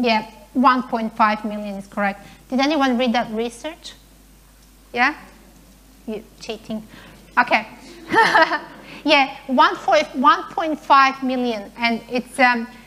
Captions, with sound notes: Yeah, 1.5 million is correct. Did anyone read that research, yeah? You're cheating. (laughing) Yeah, 1.5 million, and it's an increase,